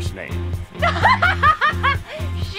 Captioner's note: laughing